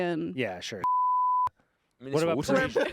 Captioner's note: beep